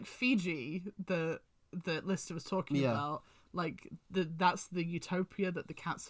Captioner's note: none